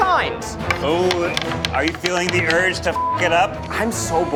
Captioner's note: beeps